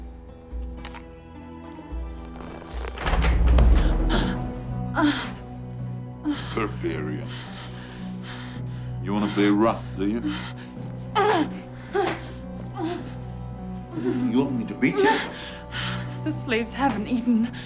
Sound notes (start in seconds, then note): 1.7 crunching; 4.0 gasping; 10.7 grunting